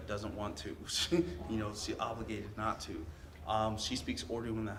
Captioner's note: laughs